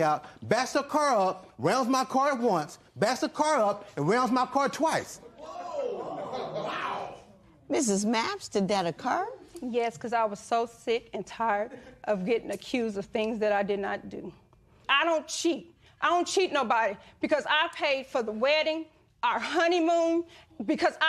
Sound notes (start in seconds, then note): 5.3 spectators exclaim